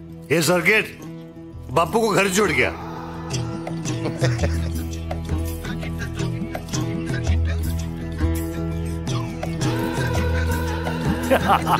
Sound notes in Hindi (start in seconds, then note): 3.5 दोनों हँसते हुए; 5.3 रोचक संगीत बजते हुए